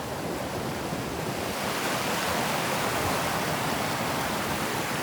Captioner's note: thundering stream